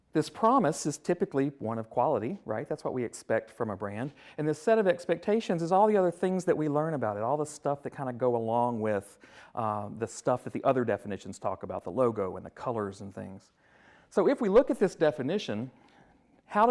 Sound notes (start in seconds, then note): none